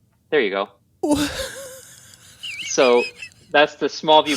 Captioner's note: giggling with joy